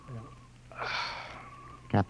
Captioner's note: sigh